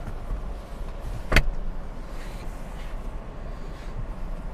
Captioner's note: metallic click